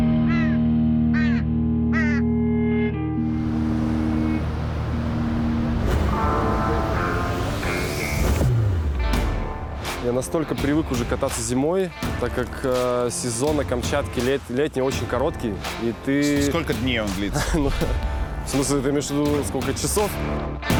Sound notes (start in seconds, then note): 1.1 bird cawing; 3.4 waves crashing; 17.1 laughs